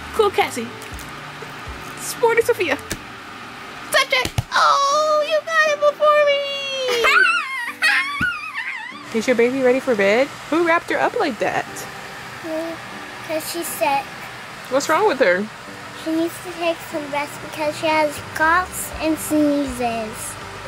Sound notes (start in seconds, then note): 4.2 hands clap on cards; 6.9 chuckles